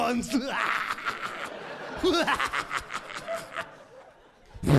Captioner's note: audience laughing